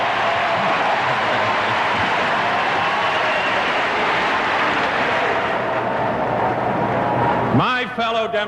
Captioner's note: crowd cheers